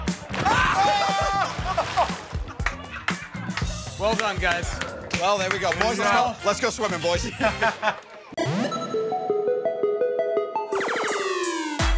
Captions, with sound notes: -Ohh! -Ohh! [ Laughter ] -Well done, guys. -Well, there we go. Let's go swimming, boys.